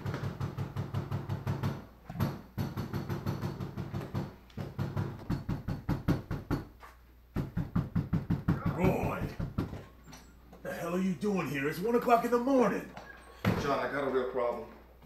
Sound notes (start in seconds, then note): 0.0 knock, knock, knock, knock, knock; 0.1 knock, knock, knock; 2.1 knock, knock, knock, knock, knock; 2.1 knock; 4.5 knock, knock, knock, knock, knock; 4.6 knock, knock, knock; 6.1 knock, knock; 7.3 knock, knock, knock, knock; 7.3 knock, knock, knock, knock, knock; 7.4 knock, knock, knock